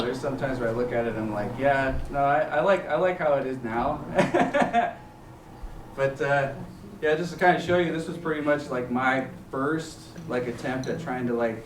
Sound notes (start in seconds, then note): 4.0 chuckles